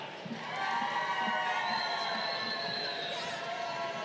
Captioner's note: crowd cheering